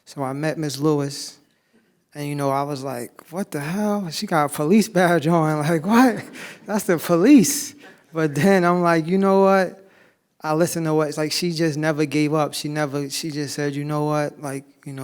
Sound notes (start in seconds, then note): 6.0 laughs